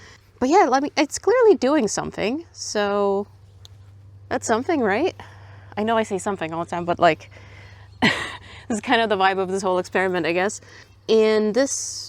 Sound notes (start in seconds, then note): 7.2 laughs